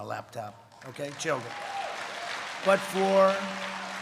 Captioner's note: applause